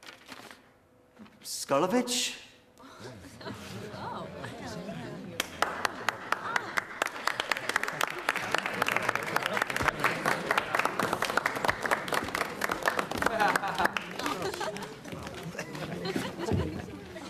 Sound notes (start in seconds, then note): 2.8 chuckling and murmuring; 3.9 scattered applause; 13.3 snickering